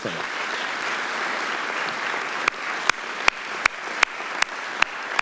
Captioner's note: audience applauding